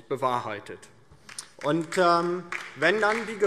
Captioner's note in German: Beifall DIE LINKE